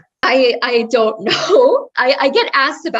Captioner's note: laugh